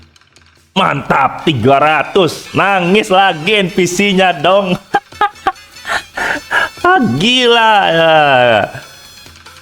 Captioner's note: laughs